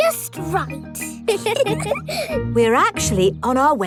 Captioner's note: both giggle